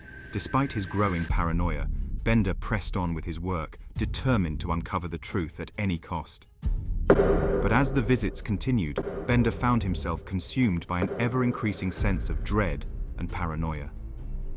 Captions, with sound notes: Despite his growing paranoia, Bender pressed on with his work, determined to uncover the truth at any cost. (hand knocking on door) But as the visits continued, Bender found himself consumed by an ever-increasing sense of dread and paranoia.